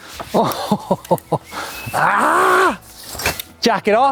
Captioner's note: laughing